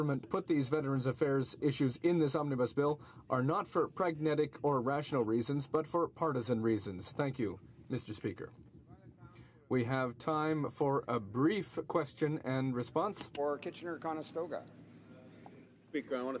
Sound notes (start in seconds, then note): none